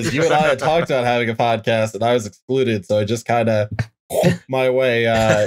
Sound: laughter; weird mouth noise

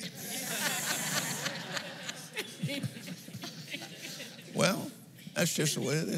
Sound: laughs

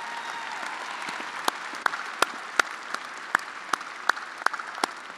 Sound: attendees applauding

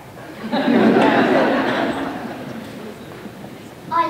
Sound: laughter

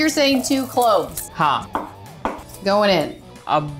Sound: speaking in Hindi

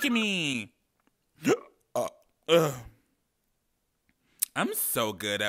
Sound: man burps

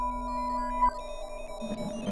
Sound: digital sounds

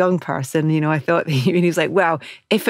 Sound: laughs

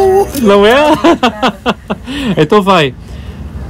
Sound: laughs

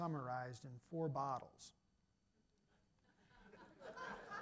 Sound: audience laughter

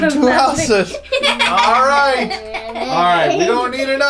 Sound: laughter

